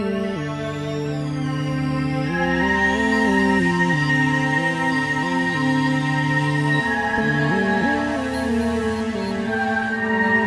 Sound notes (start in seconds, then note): 1.5 drilling noises fading. . . music starting